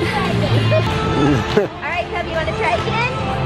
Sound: chuckles

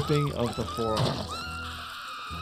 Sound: skin rips; giggles screams

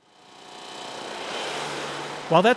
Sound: car whooshing

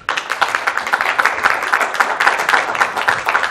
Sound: applause

